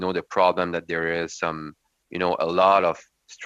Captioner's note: speaking French